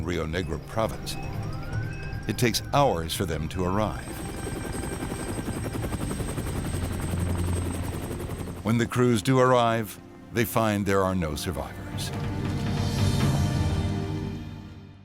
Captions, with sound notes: on Rio Negro province, it takes hours for them to arrive. (helicopter engine roaring) When the crews do arrive, they find there are no survivors. (sinister music)